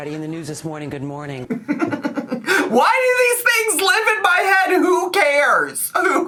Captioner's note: giggles